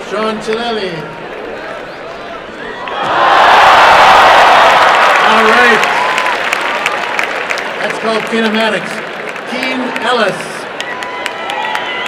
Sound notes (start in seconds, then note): 2.9 crowd roars and applauds